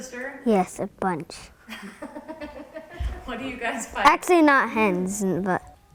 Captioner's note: laughs